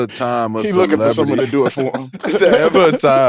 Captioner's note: group laughs